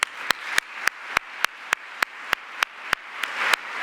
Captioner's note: audience applauds